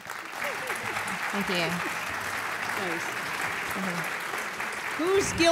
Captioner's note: applause